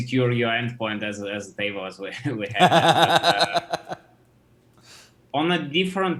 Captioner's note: laughs